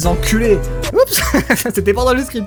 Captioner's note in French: rire